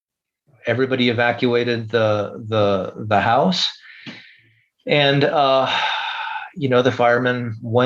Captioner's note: sigh